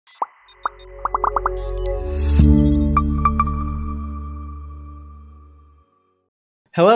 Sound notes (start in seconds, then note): 0.1 graphics popping; 0.1 graphics beeping; 2.3 bright music; 2.3 logo chiming